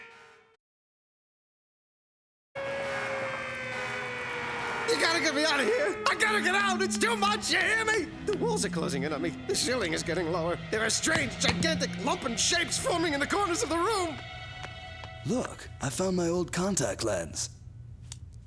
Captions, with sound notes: (alarm wailing) You gotta get me out of here! I gotta get out! It's too much, you hear me! The walls are closing in on me. The ceiling is getting lower. There are strange, gigantic lumpen shapes forming in the corners of the room. Look, I found my old contact lens.